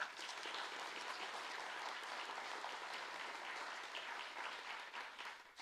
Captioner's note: audience applauding